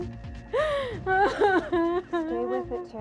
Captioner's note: crying